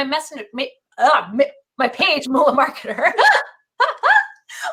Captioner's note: laughs